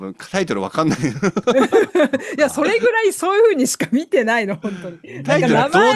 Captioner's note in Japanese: 笑い